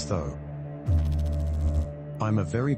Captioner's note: electrical noise